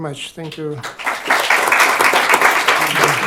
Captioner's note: applause